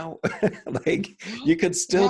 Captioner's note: chuckling